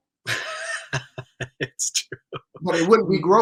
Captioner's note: laughs